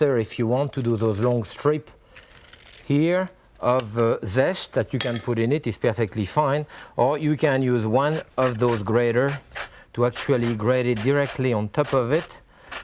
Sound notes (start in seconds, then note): 2.3 fruit grinding; 8.1 fruit rasping